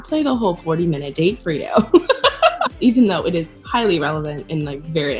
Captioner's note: laughter